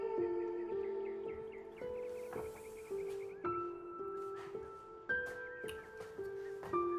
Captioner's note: soft music; birds chirping